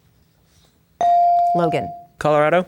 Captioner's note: bell dings